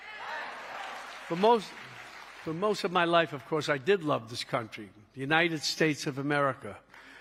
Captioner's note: cheering